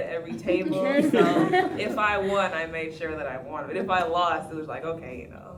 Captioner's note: laugh